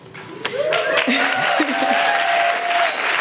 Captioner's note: applause